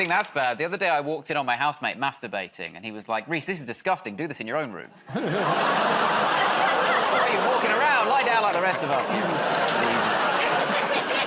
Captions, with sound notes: -You think that's bad? The other day I walked in on my housemate masturbating, and he was like, "Rhys, this is disgusting. Do this in your own room." [ Audience groans ] "Why are you walking around? Lie down like the rest of us." -Crazy.